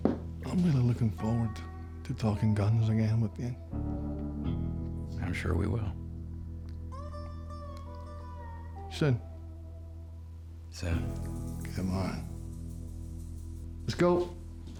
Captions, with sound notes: I'M REALLY LOOKIN' FORWARD TO TALKIN' GUNS AGAIN WITH YOU. I'M SURE WE WILL. [SCOTTISH ACCENT] SOON. SOON. [SCOTTISH ACCENT] COME ON... LET'S GO.